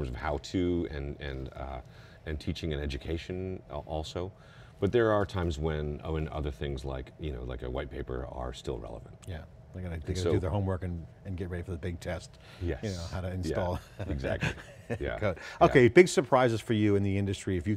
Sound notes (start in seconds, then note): 13.7 laughing